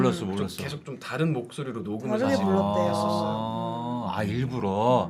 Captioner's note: intentionally used a different voice